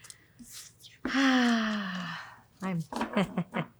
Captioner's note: sighs; laughs